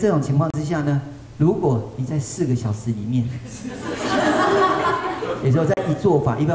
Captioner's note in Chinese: 眾笑